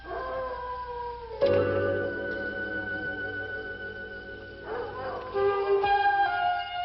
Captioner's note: insects chirping; wolves howling